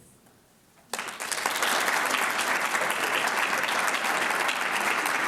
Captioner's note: audience clapping